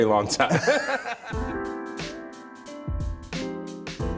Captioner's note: both laugh